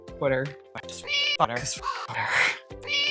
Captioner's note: meow; caw